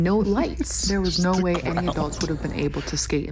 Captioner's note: laughing